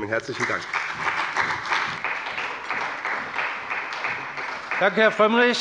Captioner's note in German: Beifall bei dem BÜNDNIS 90/DIE GRÜNEN und der CDU